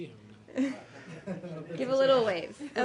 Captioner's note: laughter